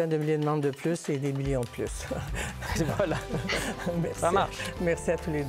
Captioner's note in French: rires